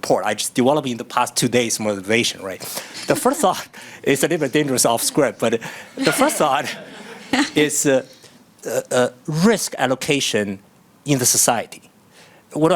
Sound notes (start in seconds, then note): 2.9 chuckles; 4.7 audience laughing